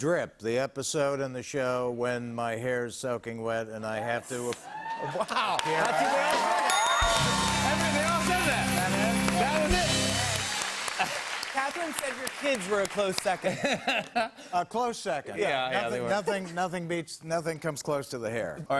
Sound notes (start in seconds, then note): 6.6 ding; 13.4 laughs